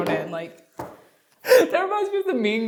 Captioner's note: laughs